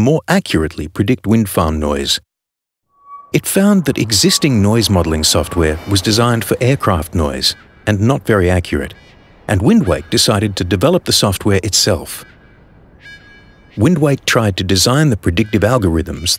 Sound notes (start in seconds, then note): 12.2 electronic sound